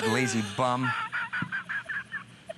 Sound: laughter

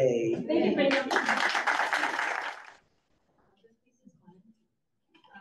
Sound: audience claps

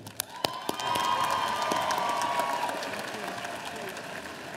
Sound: audience applauding

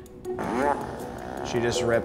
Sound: farting

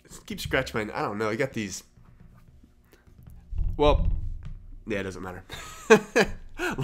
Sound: chuckles

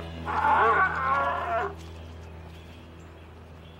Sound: bear screams

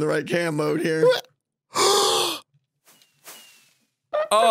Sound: gasps

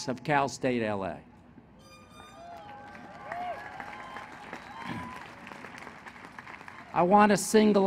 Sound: applause

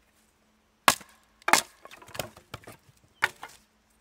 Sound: banging

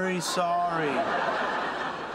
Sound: audience laughter

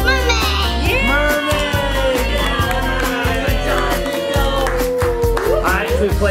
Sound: mom and Dad cheering

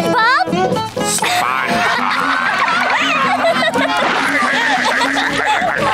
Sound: laughing

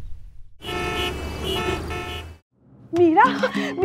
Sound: cars honking

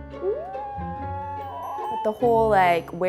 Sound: gleeful humming

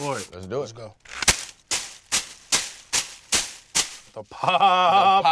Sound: bag scrunching

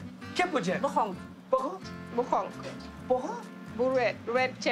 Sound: speaking foreign language

